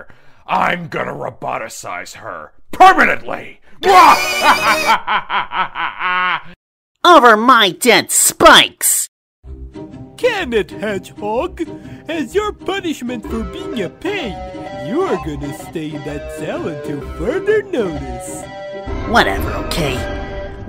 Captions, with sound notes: I'm gonna roboticize her... permanently!!! (more maniacal laughter!) Over my dead spikes! Can it, hedgehog! As your punishment for being a pain, you're gonna stay in that cell until further notice. Whatever, okay?